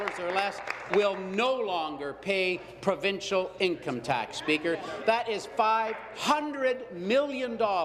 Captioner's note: applause